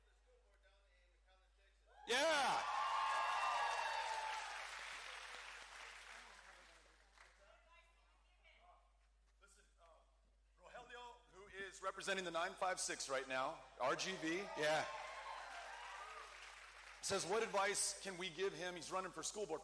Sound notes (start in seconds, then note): 6.6 cheering